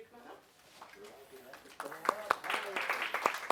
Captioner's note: applause